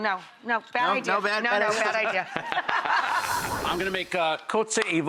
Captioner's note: laughs